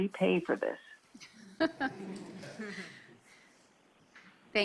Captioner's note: laughing